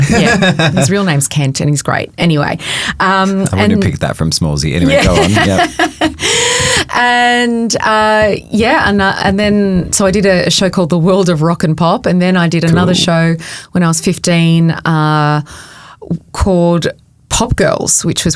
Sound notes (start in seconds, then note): 0.0 chuckling; 4.8 chuckling